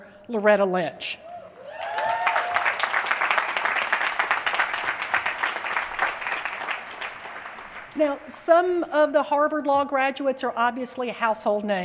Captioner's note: applause